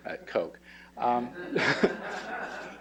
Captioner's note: laughter